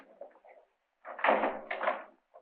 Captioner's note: door closes